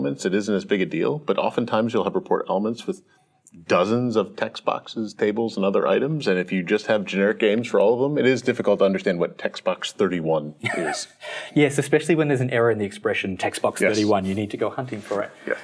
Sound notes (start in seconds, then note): 10.6 laughs